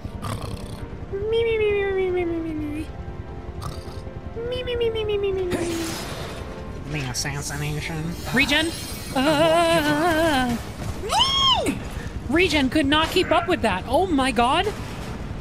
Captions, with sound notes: [Cartoonish Snoring] The assassination. Regen! [Scared Noises] [Fearful Yelp] Regen could not keep up with that, oh, my God?